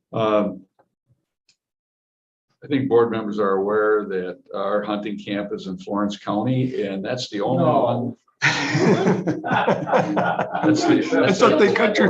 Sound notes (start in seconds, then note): 10.1 laughter